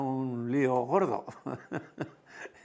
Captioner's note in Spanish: ríe